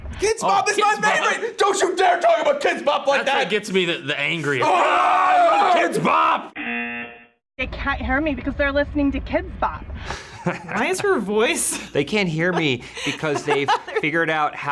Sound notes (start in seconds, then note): 4.5 yells; 6.6 buzzer; 12.2 laughs